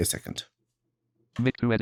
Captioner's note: automated voice